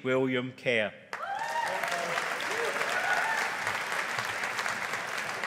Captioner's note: audience applauding